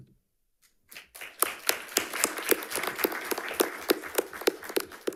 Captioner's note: audience applauding